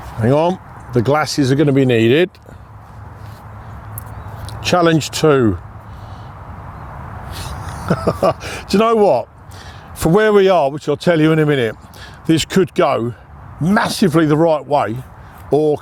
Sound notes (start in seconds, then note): 7.3 chuckles